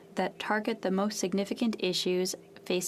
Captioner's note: speaking French